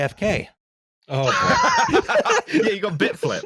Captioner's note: wave of laughter